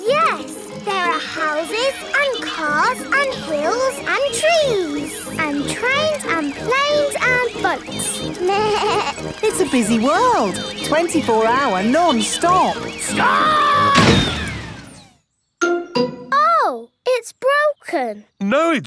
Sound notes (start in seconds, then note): 8.4 bleats; 13.8 thuds